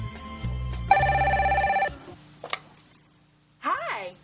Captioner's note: phone ringing